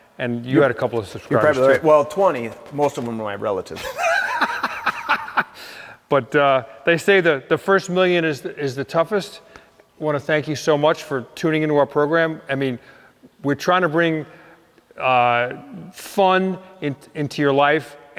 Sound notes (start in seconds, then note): 3.7 laughing